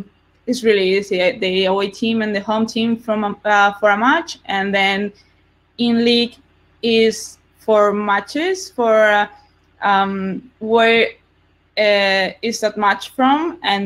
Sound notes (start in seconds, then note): none